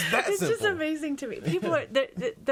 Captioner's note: all laughing